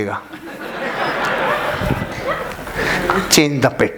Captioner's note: laughing